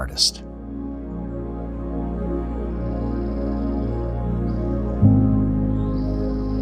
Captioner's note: gentle music; birds chirping